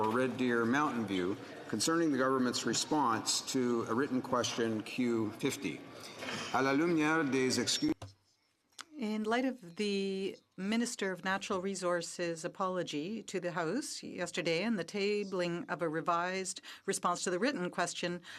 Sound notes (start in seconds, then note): 10.5 speaking French